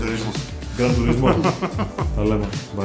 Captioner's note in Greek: γέλια